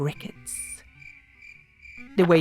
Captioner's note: cricket noises